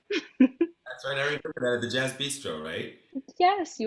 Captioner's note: distorts; giggles